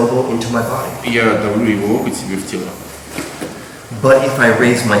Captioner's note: speaking in a foreign language